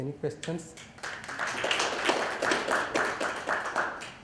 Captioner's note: applause